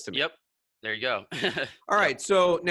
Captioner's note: laughs